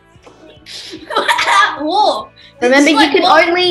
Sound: laughs

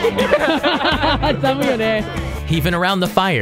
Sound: laughs again

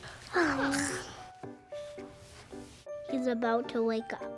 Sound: sighs

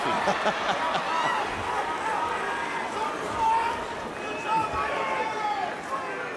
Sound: chuckles

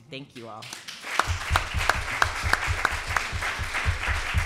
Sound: audience applause

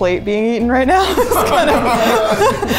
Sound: all laughing

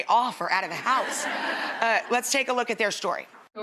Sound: audience laughs

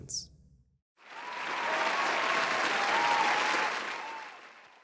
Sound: people cheering

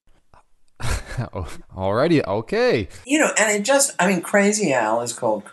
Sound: laughs

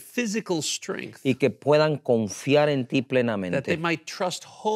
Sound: speaking in Spanish

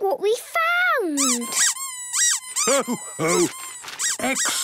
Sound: squeaking

